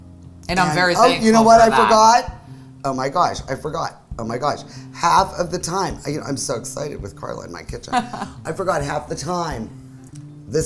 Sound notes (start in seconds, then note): 7.9 laughing